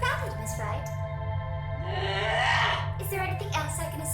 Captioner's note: guttural roar